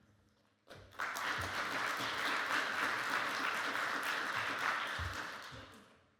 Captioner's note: audience applauding